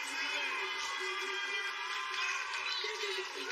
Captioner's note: cheers and applause